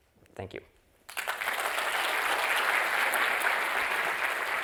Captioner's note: applause